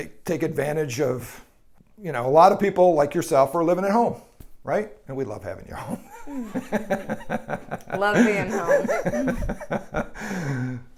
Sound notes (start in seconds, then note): 5.9 laughs